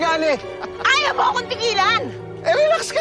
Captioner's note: diego chuckles